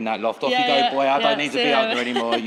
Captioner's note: laughs